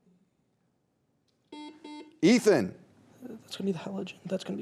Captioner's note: beep